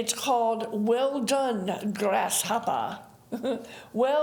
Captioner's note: giggling